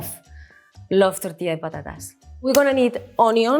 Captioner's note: speaks in Spanish